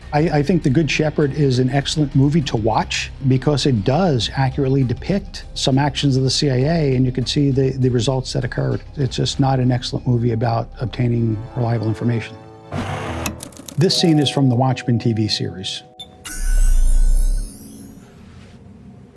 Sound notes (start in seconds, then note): 12.7 static; 16.2 electric buzzing